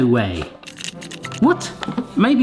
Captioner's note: handle rapidly turning